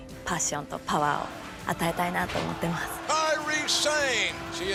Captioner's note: speaking japanese